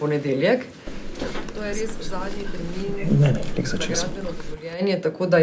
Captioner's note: whispering